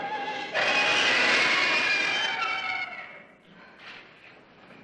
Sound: woman screaming

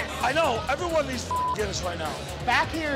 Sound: beep

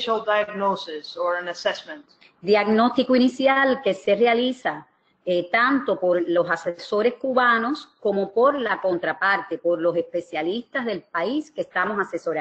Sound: speaking another language

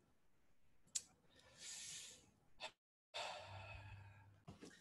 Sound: exhales sharply

